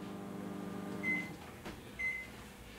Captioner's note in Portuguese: microwave sound